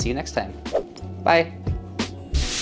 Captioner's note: air whooshing